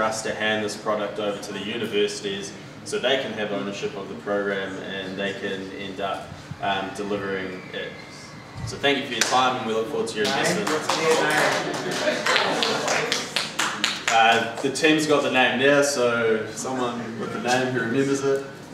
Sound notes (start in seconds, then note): 10.8 voiceover